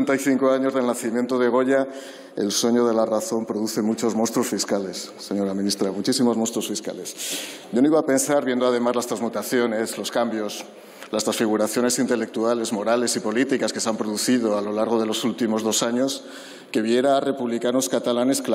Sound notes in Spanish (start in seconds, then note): none